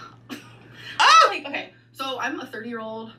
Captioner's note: laughs; shrieks